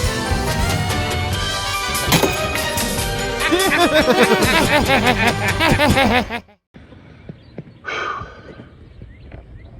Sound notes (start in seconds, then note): 1.5 spits; 3.4 laugh